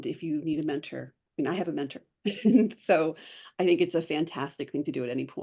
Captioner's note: laughs